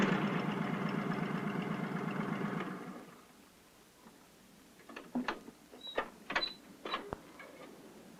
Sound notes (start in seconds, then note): 2.2 engines turn off; 6.3 squeaking